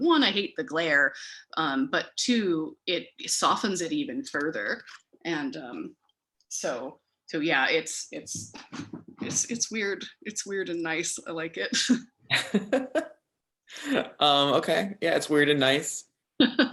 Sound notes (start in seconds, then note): 12.3 chuckles